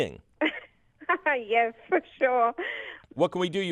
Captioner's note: laughs